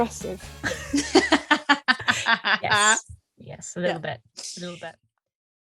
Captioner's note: laugh